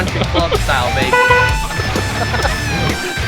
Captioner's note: horn honking; laughing